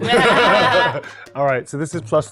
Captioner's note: everyone laughs